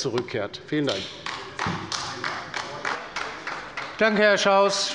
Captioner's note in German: Beifall bei der LINKEN